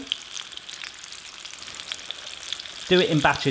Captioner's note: oil sizzling